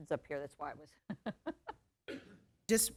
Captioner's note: laughs